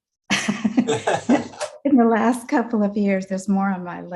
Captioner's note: laughs